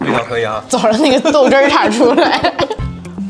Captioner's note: laughing at people